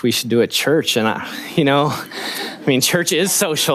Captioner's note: laughing